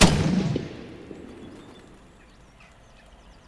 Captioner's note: gunshot; birds scattering